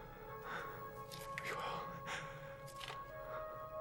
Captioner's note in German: Hecheln